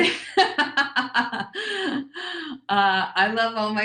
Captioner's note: laughs